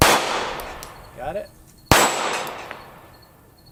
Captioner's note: gunshot